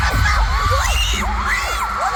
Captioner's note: various screams